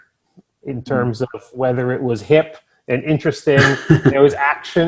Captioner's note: chuckles